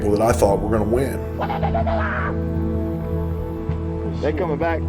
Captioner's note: jeering